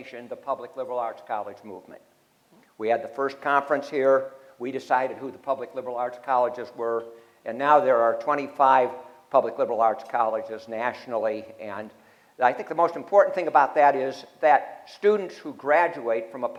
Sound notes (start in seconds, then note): none